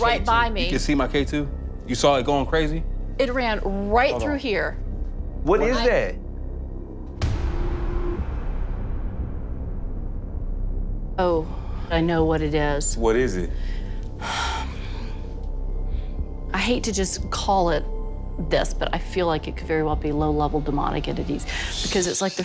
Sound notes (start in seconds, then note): 6.2 suspenseful music; 14.2 sighing